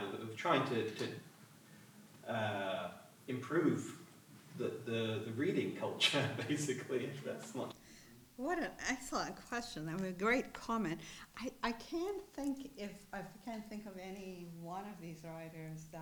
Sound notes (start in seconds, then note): 6.0 chuckles